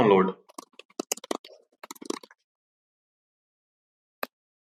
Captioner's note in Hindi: टाइपिंग साउंड